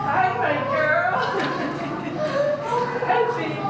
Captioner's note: laughter